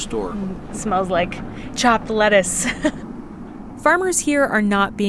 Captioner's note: laughter